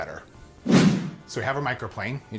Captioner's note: whooshing